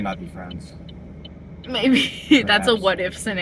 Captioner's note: laughing